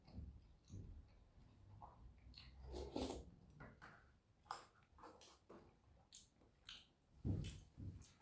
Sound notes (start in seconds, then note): 2.4 slurp; 4.5 omnom